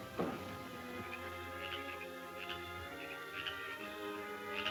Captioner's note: frog croaking